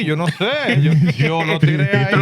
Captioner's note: speaking Spanish